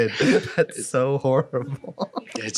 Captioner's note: laughing; laughs